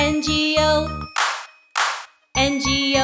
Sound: hands clap

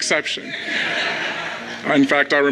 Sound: crowd laughs

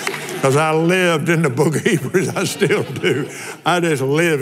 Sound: laughs

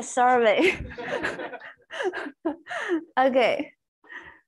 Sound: laughs

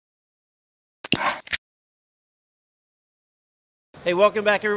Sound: can opening

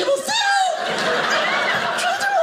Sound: audience laughing

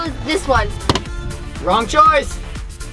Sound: button clacking

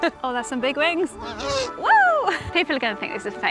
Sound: laughs; owls hoots

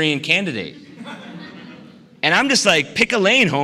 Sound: laughter

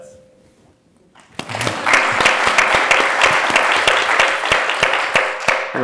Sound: audience applauds

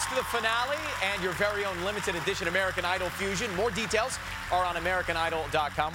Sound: cheers and applause

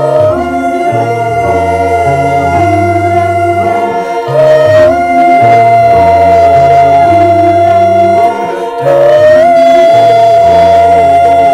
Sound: vocalizing intensifies

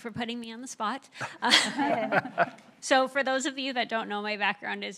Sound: laughter

